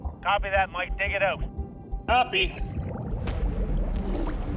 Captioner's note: speaking over radio; tense music plays